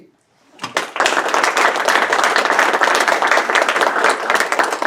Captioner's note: audience applauds